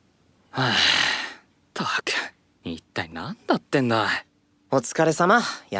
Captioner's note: sighs